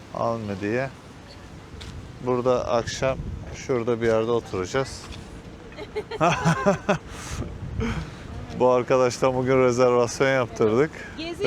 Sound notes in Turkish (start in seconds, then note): 5.7 kahkaha